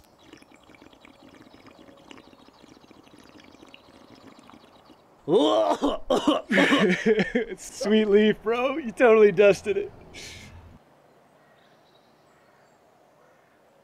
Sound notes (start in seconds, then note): 5.2 cough cough cough; 5.6 laughter